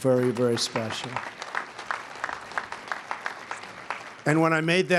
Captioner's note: applause